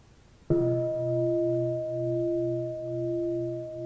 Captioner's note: bell